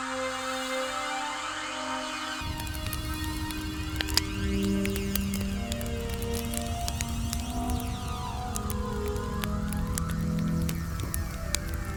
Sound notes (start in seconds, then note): 0.1 quiet music; 3.1 fire crackling